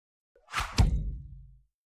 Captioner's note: shhh-thunk